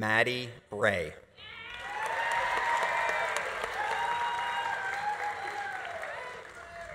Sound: audience cheering; audience applauding

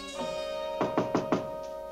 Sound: knocking on door

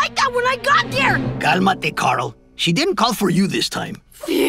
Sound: spanish

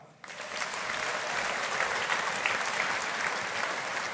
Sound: audience applauding

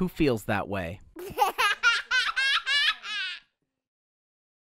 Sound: laughter

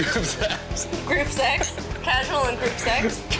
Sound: laughing

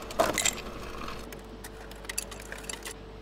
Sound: rattling

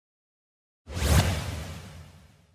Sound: more whoosh

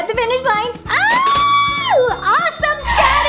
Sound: cheering

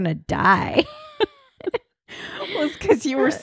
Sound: laughing

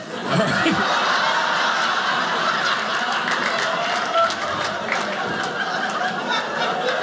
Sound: audience laughing

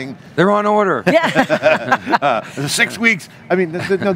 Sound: all laugh

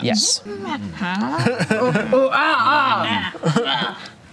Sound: grunts

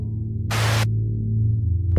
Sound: Static

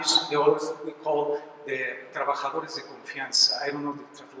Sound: spanish

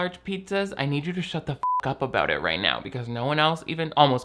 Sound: beep

